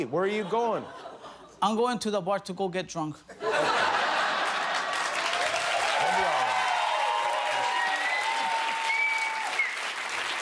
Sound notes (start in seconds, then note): 6.8 cheers and applause